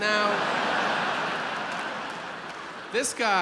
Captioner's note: audience laughs